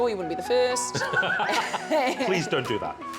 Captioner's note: laughter